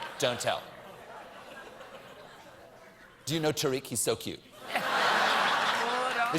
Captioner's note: laughter